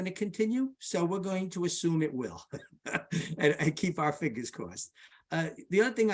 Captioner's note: laughs